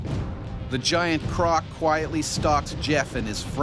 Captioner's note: voiceover